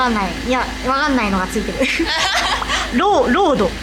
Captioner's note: laughs